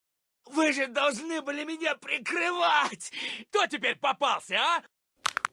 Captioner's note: soldiers Speaking Russian